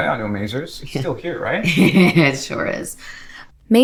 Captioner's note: Maisie chuckles